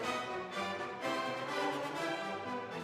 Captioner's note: none